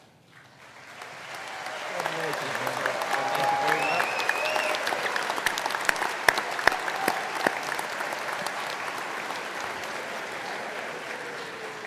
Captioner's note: applause